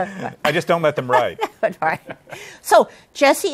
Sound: laughs

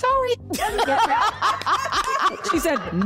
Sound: laughter

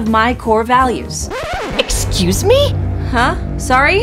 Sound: record scratching

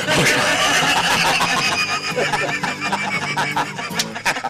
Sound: laughter

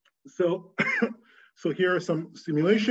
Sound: coughing

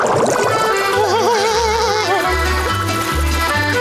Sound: laughing

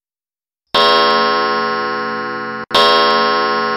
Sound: clock strikes twelve

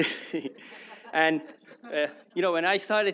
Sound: laughter; laughs

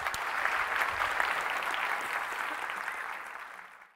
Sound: applause

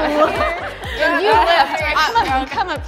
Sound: laughter

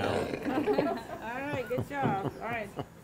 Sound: all laughing

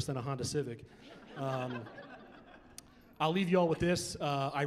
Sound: laughing

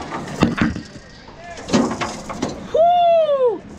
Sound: laughs

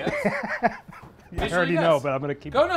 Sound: laughs

